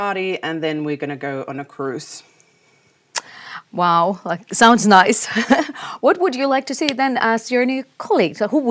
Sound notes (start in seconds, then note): 5.3 chuckles